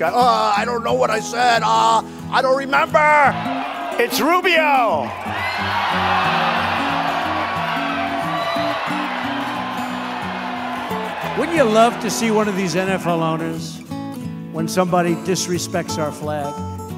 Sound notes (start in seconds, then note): 5.2 crowd cheers